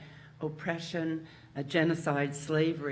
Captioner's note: none